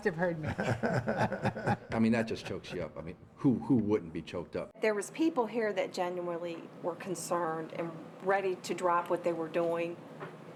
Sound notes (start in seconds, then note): 0.4 laughter